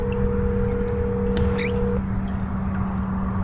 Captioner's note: phone ringing